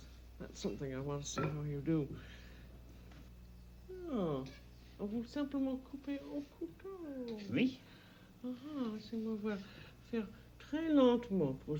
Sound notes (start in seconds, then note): 4.4 speaking French; 8.5 speaking French